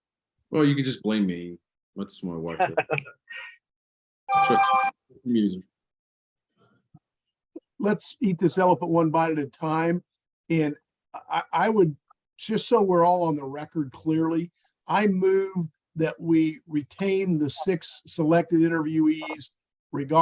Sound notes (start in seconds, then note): 2.5 laughing